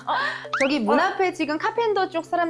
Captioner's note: guest arriving sound effect